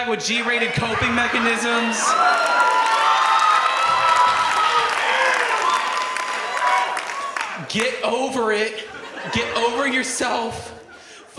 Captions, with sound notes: with G-rated coping mechanisms. (audience cheers) Get over it. Get over yourself.